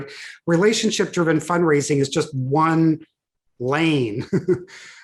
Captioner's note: chuckles